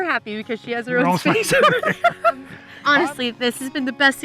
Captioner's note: laughs